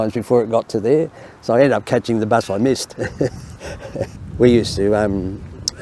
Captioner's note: laughs